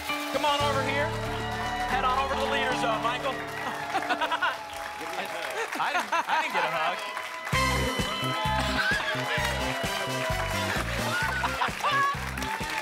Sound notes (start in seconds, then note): 3.7 laugh; 4.9 applause and cheering; 8.5 applause and cheering; 11.1 laughs